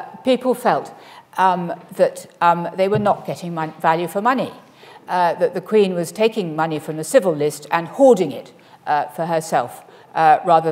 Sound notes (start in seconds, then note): none